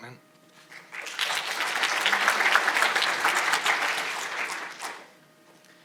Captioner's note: audience applauding